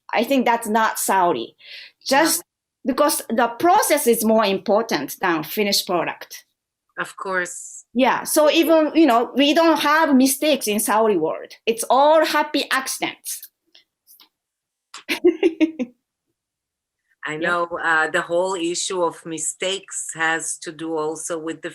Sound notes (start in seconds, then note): 15.0 laughter